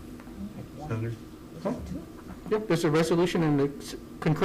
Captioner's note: group chattering